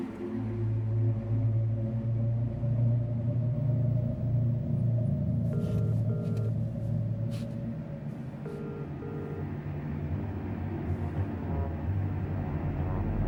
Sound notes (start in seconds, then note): 0.1 ominous music; 5.4 phone ringing; 8.8 suspenseful music